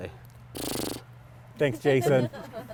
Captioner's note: horse snorts